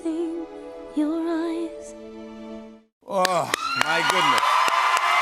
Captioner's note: cheers and applause